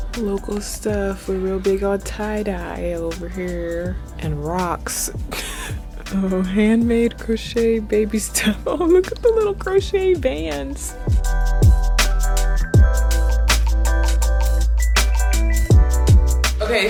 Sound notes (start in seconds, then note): 0.0 low-fi hip hop instrumental music; 5.2 laughs; 12.5 low-fi hip hop instrumental music